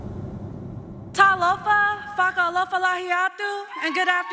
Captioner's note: music fades out; speaking Samoan